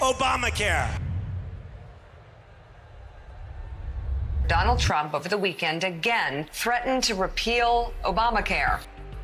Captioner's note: applause